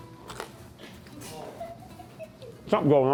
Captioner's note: crew member chuckles